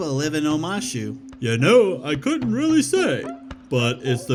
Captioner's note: in old man's voice